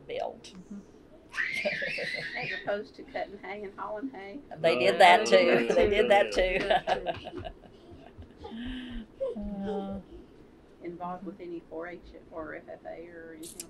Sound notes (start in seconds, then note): 5.4 laughter